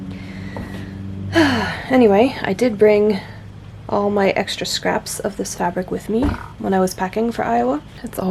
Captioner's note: short sigh